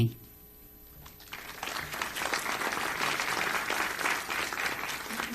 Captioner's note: audience applauds